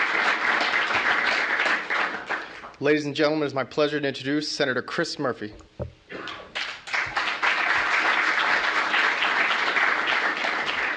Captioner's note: applause